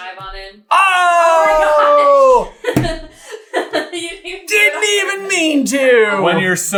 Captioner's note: laughs